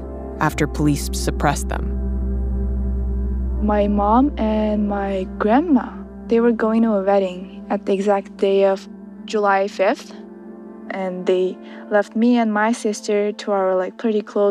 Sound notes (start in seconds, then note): none